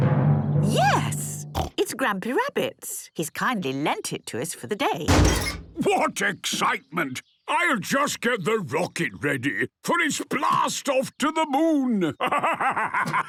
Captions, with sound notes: - Yes, it's Grampy Rabbit's. He's kindly lent it to us for the day. - (metallic door bursting) - What excitement! I'll just get the rocket ready for its blast-off to the Moon! Ha, ha, ha...!